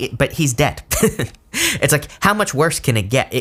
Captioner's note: laughs